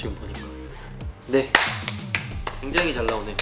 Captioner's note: clap clap